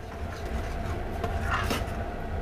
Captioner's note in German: Rührgeräusche